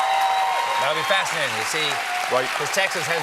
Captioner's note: applause